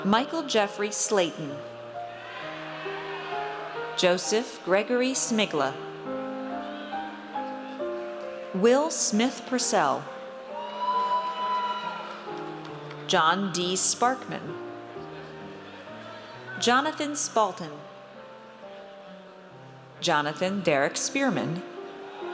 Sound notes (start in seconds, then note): 2.1 audience cheers; 10.5 audience cheers